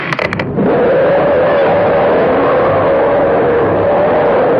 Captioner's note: ominous music; growling